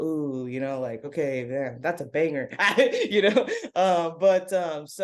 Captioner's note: laughs